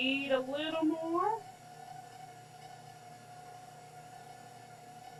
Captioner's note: mixer whirring